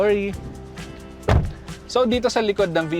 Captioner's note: door thuds